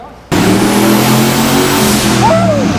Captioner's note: engine revving loudly